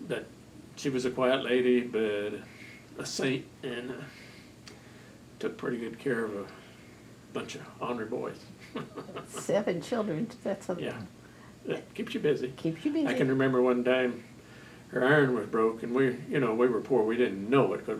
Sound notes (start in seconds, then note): 8.6 laughs